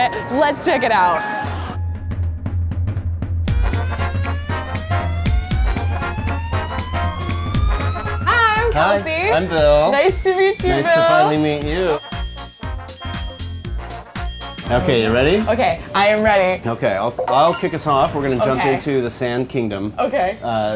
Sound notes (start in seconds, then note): 1.6 upbeat instrumental music; 11.8 dinging